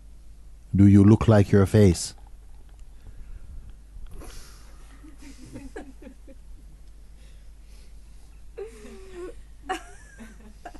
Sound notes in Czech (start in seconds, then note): 5.0 smích